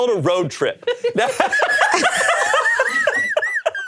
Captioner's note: all laughing